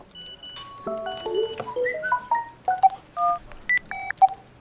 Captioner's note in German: Handys piepen